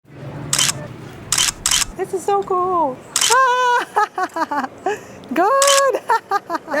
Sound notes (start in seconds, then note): 1.3 camera clicks; 3.2 laughs